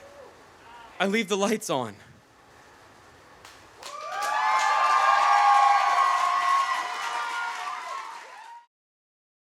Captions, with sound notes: I leave the lights on. (audience cheers)